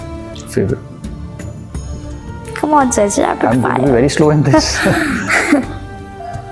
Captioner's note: laugh